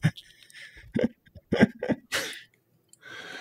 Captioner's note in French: Rires